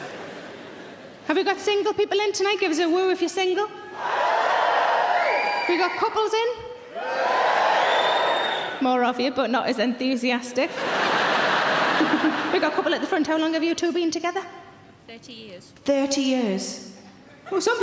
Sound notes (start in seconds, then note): 4.0 audience shouts woo; 7.0 audience cheering